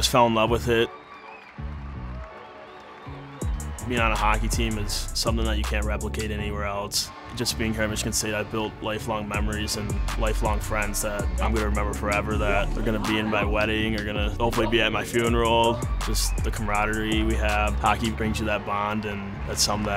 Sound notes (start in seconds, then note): 0.9 crowd cheering; 6.9 horn blaring